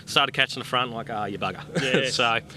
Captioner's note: laughs